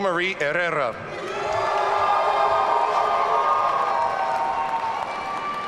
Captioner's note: audience cheering